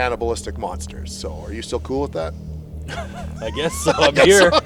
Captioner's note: laughs